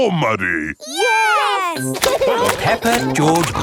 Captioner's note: laughing